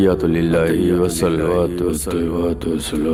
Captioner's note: chanting